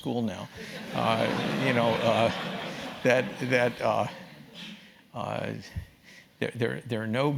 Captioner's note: laugh